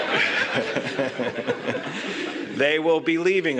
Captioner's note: laughter